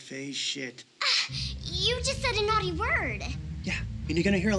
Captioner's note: scoffs